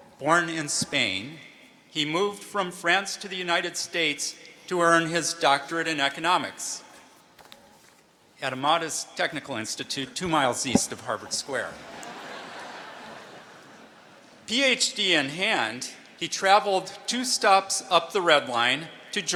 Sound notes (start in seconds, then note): 11.8 laughter